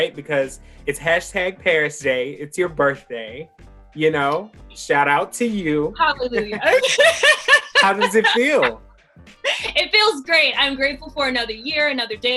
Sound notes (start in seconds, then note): 6.2 both laugh